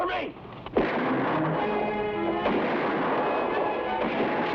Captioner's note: gunshots blast